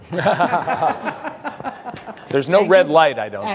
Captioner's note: audience laughing